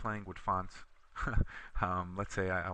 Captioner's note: chuckles